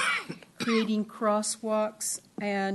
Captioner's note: coughing